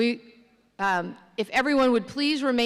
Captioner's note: none